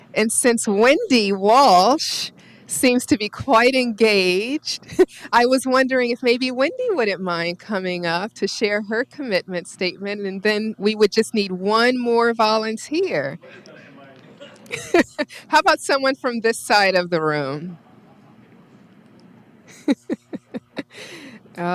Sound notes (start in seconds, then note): 13.4 laughs; 19.6 laughs